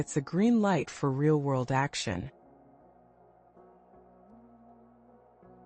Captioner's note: pause